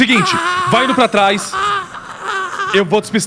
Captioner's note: groaning; groans